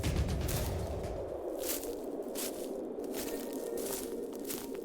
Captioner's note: grass crunching